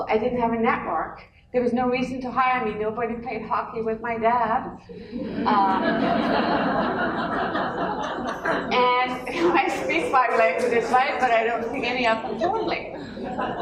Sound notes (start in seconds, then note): 5.0 laughter